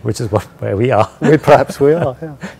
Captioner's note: laugh